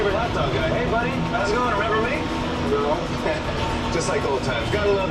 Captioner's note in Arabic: يضحك